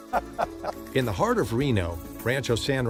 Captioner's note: laughter